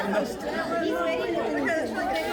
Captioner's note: crowd chattering